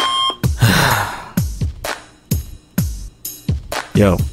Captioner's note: sigh